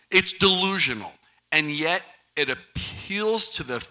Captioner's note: none